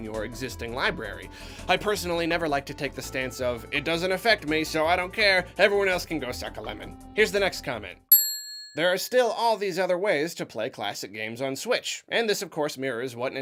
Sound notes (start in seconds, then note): 8.1 third ding